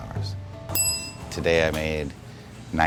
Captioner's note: bell rings